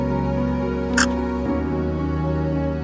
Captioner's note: camera shutter sound